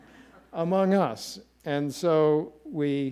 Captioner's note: audience laughing